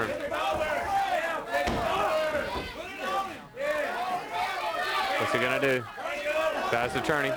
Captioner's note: crowd chatter